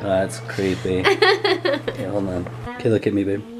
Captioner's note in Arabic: يضحك